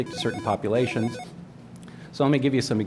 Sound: phone ringing

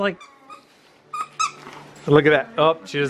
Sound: squeaking

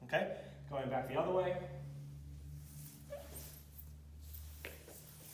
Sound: floor squeaks

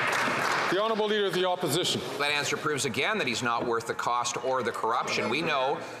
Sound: some Applause

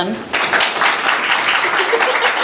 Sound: applause

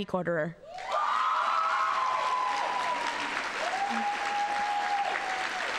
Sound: audience cheering and applauding

